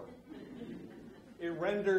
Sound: audience laughs

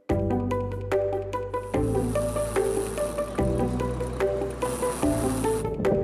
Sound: line whirring

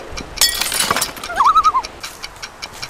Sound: loon call

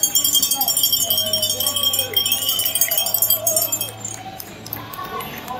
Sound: bell ringing

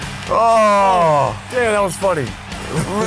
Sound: sighs

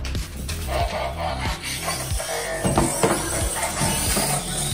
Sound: Optimus Prime whirring; upbeat music

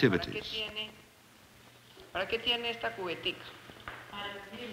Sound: speaking Spanish

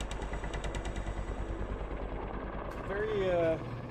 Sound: voiceover

